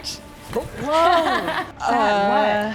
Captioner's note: laughing